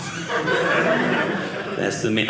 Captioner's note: audience laughing